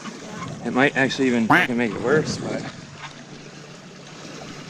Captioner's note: duck quacking